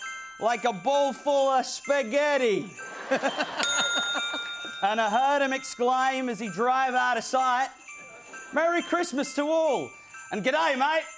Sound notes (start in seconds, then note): 2.8 laughter; 3.2 bell dings; 4.1 Australian accent